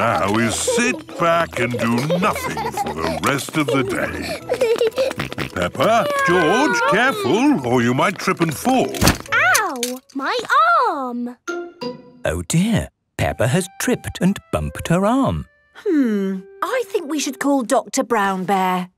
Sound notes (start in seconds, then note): 8.1 thumps